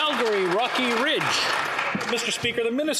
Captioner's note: some Applause